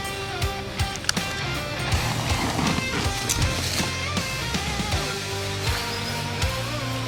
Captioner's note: boots wading softly through tall, sun-baked Louisiana field grass